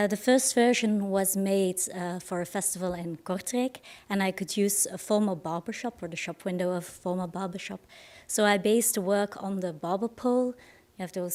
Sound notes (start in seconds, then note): none